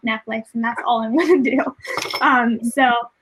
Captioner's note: laughs